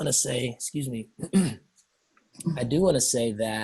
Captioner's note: clears throat